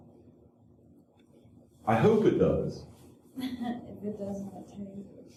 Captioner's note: laughter